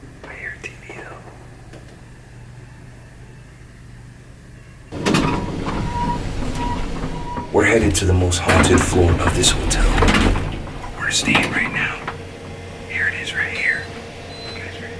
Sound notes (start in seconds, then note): 5.1 elevator doors; 10.6 whispers